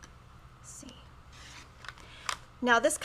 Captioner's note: whispers